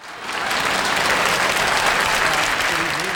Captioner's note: audience clapping